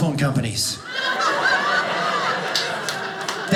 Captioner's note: audience laughing